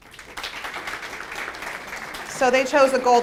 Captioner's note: applause